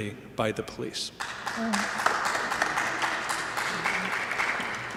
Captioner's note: applause